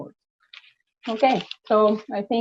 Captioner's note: paper rustling